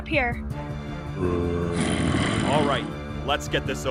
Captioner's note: aggravated zombies